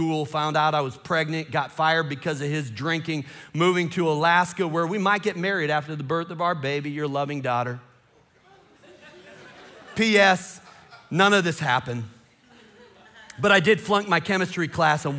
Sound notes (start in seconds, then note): 8.3 congregation laughing